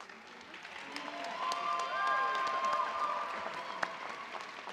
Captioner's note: cheers and applause